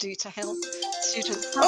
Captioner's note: phone ringing